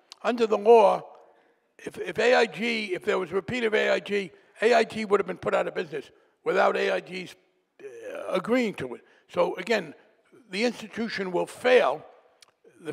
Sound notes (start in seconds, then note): none